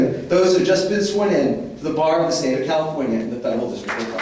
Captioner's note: applause